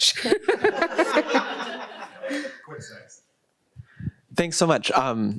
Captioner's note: chuckles